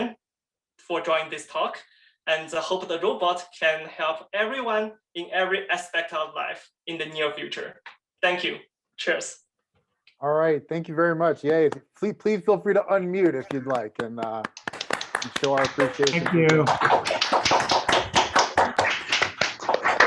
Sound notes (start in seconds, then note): 13.2 participants clapping